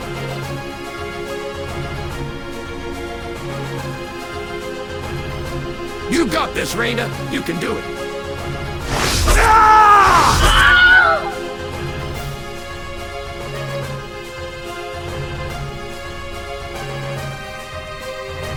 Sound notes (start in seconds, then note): 9.0 Wilhelm Scream; 9.2 DEMOMAN 15.ai SCREAM SOUND